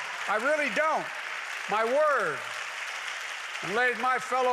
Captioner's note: applause